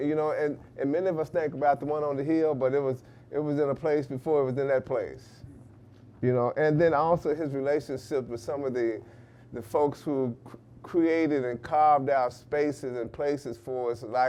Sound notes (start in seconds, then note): none